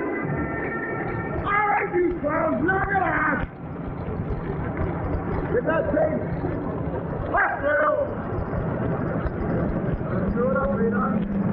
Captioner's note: parade master shouting